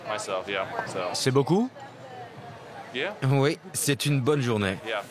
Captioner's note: none